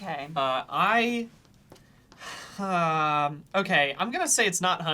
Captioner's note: sighs